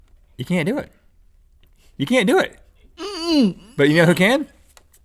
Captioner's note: Link grunts